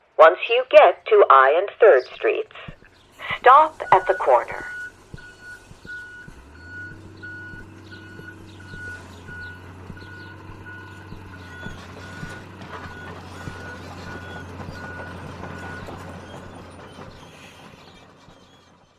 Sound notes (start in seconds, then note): 3.2 alarm beeping; 6.7 traffic rumbling; 15.5 alarm beeping; 16.4 traffic rumbling